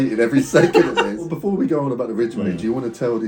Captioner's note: laughs